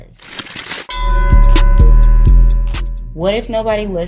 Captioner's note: bell dings